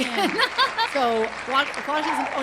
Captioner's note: audience applauding